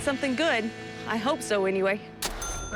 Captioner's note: cash register chime